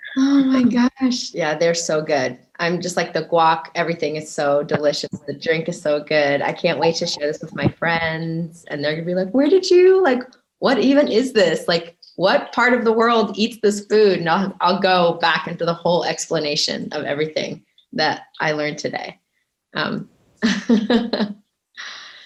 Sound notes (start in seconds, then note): 20.5 chuckles